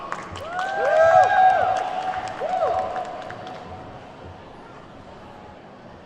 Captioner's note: attendees whooping and clapping